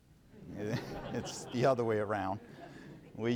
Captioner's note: laughing